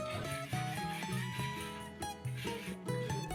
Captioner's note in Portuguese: som da lixa